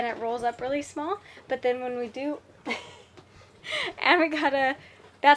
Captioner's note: laughs